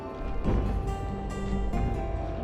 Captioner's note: footsteps thud